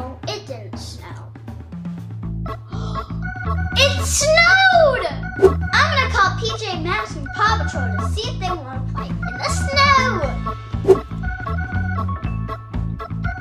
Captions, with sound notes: - Well, it didn't snow. (Assistant gasping) It snowed! I'm gonna call PJ Masks and the Paw Patrol to see if they want to play in the snow! (upbeat music)